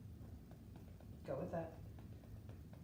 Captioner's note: gentle tapping